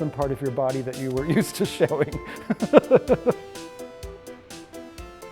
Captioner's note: laughter